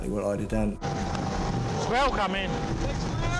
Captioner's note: engine rumbling